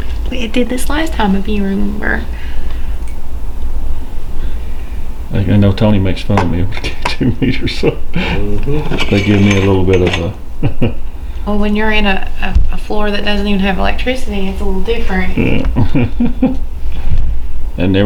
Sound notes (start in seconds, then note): 6.9 chuckles; 10.5 chuckles; 15.3 chuckling